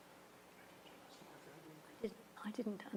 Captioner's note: whispers